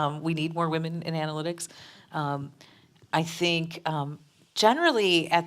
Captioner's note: none